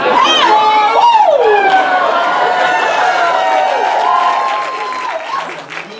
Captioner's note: audience cheers